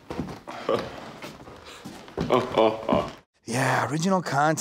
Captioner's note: chuckling